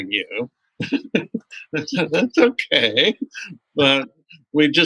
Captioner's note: laughter